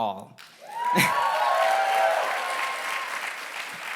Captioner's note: applause